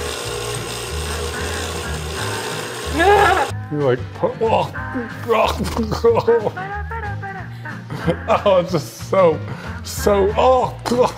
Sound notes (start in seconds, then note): 3.1 laughs